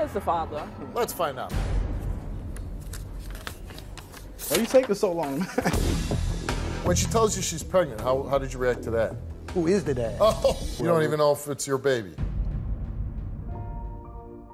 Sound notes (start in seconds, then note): 2.5 paper rustling; 10.2 laughs